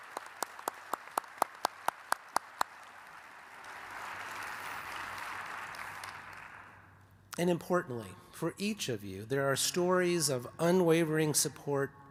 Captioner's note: applause